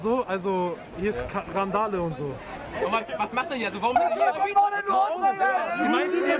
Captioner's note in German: Gegröle